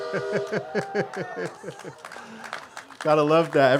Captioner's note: horn blares; cheers and applause; laughs